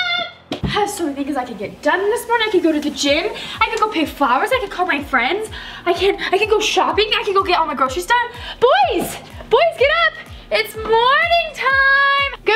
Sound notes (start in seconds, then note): none